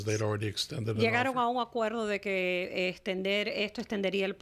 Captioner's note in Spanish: Hablando ingl\s